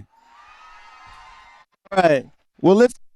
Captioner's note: cheering